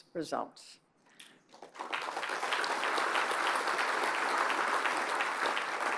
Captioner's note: applause